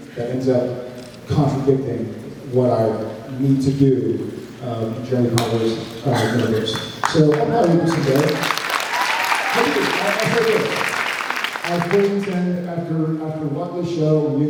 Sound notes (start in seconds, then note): 6.3 applauds